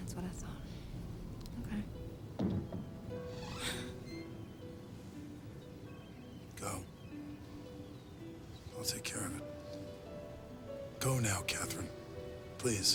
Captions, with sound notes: That's what I thought. Okay. (thudding) (door squeaks) (Catherine gasps) - Go. I'll take care of it. Go now, Catherine, please.